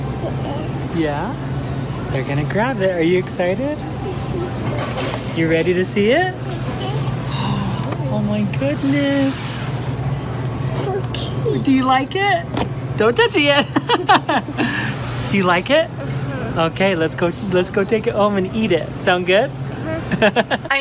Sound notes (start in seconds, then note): 7.2 gasps; 14.5 laughs